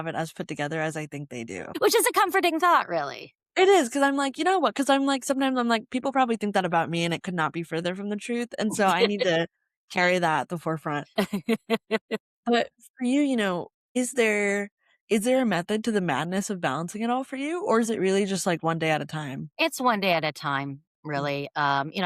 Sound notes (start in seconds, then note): 11.1 laughter